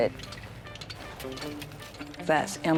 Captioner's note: stones clinking